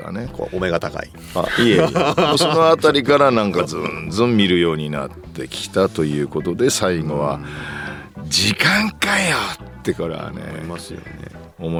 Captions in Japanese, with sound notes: こうお目が高い。 あ、いや、いい。その辺りからなんかズん見るようになってきたということで最後は [笑い] 時間かよってこれはね、 思いますよね。